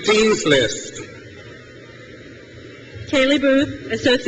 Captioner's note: crowd cheers